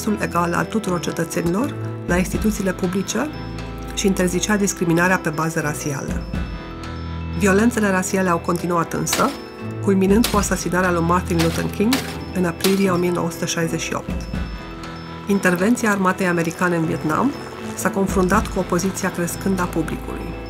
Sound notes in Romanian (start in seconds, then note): 13.2 focuri de armă